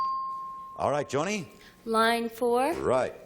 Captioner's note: ping